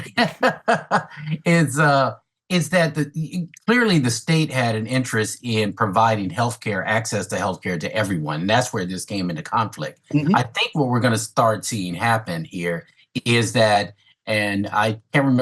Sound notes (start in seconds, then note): 0.0 laughs